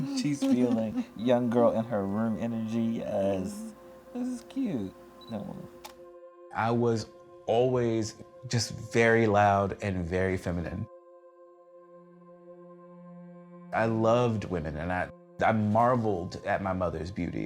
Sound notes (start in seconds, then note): 5.4 camera clicks